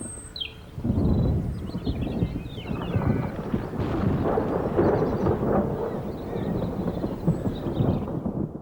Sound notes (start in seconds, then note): 0.8 thunder rumbles; 2.9 thunder crashes distantly